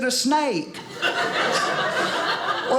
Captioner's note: audience laughing